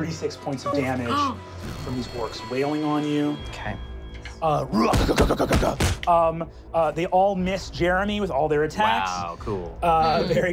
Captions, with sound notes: you take 36 points of damage from these orcs whaling on you. - Okay. (grunting and pounding) - They all miss J'er'em'ih with all their attacks. - Wow, cool.